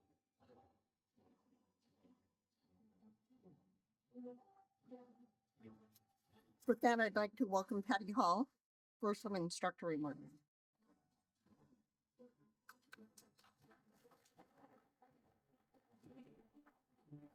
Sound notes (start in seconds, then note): 12.4 applause